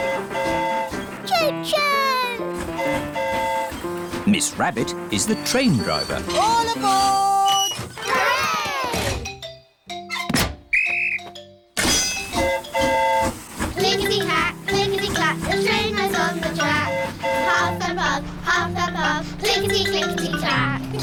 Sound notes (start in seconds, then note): 2.5 train horn hooting; 10.7 blows whistle; 10.7 train horn toots